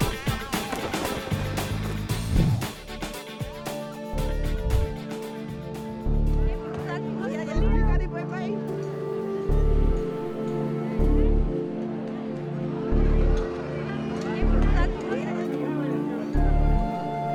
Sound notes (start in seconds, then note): 5.0 background chatter; 5.0 slow tempo music